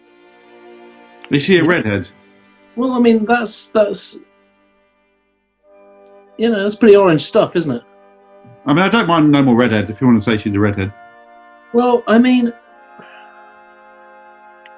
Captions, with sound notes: Is she a redhead? Well, I mean, that's... That's... You know, that's pretty orange stuff, isn't it? I mean, I don't mind no more redheads, if you want to say she's a redhead. Well, I mean... [EXHALES]